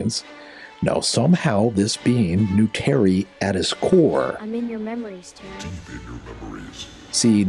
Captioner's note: whispers